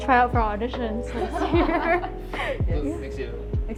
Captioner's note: laughter